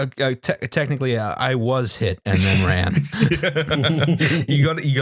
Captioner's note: laughter